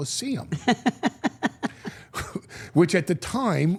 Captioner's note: Steph laughing